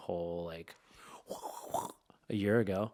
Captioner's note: making whooshing sounds